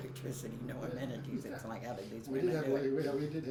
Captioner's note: laughs